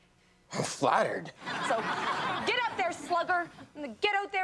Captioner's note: audience laughs